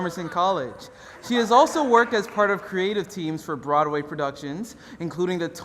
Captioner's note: applause